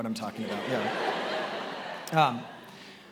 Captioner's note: attendees laughing